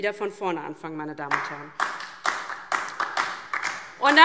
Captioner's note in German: Beifall DIE LINKE